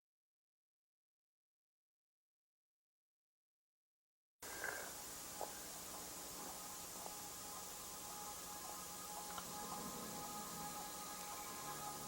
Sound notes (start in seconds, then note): 2.2 snoring